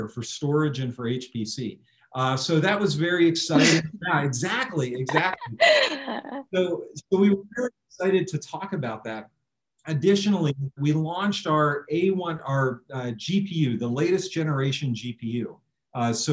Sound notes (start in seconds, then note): 6.0 laughs